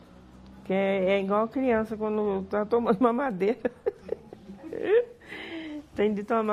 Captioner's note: laughs